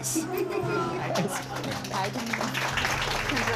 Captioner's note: applause